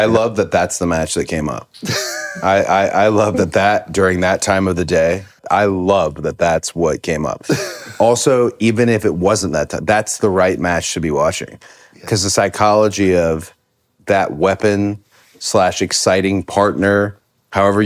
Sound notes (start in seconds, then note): 1.8 Finn laughs